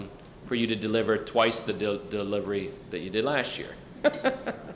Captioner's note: laughs